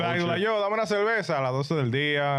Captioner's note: speaking In Foreign Language